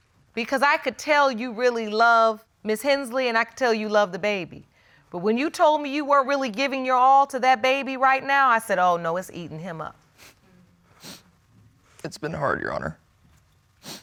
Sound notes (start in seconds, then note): 11.0 sniffling